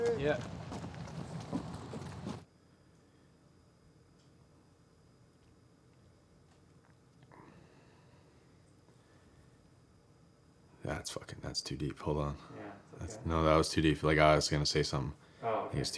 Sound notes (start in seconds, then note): 6.6 swallows